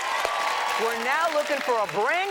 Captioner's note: audience cheers and applauds